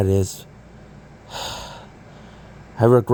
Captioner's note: sighing